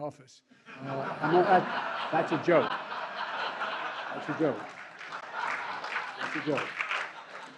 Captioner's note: laughter